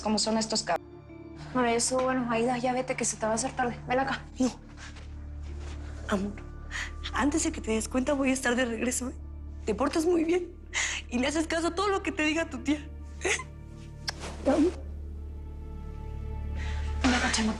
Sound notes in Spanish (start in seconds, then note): none